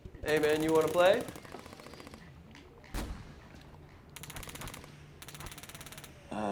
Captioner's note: gunfire rattling from video game